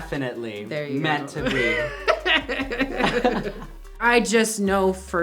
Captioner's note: they laugh